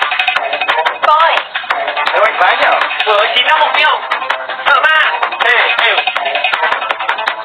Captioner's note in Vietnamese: Vỗ tay